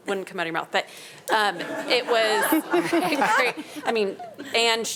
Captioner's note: panelists laughing